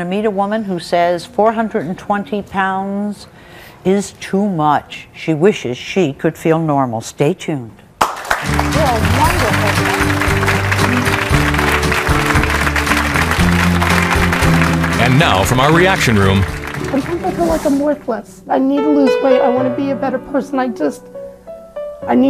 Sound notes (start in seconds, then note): 8.8 audience applauds; 13.4 upbeat music